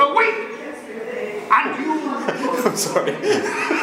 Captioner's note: laughs